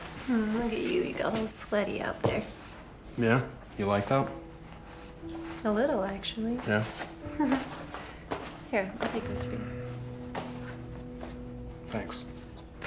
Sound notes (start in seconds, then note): 7.2 Claire giggles; 9.7 gentle music